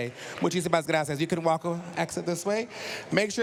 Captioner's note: speaking spanish